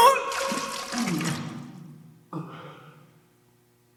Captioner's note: Jacob coughing; Jacob vomiting